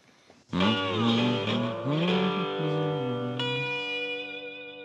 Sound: humming

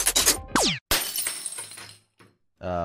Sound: rattle; shatter

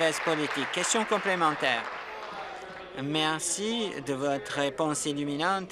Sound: applause

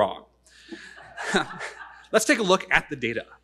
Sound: audience laughing

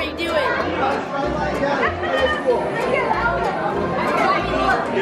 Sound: crowd talking

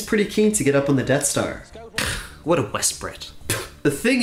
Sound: spits

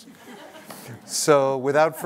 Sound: laughter

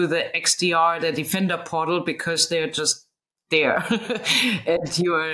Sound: laughing

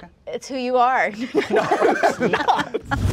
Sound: all laughing

